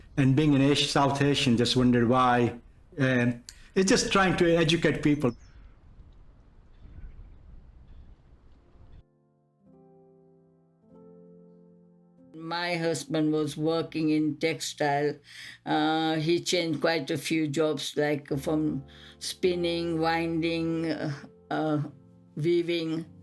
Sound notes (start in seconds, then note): 5.6 birds tweeting outside; 8.9 gentle music